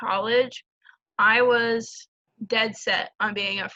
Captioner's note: none